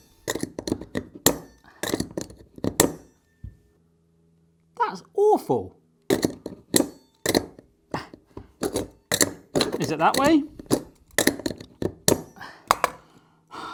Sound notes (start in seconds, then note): 0.0 metal clanking repeatedly; 6.2 metal clanking repeatedly; 11.0 metal clanking